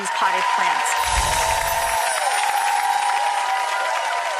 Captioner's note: audience cheers